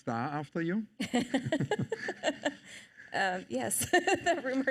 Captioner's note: chuckles